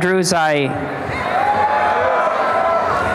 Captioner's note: cheering and applause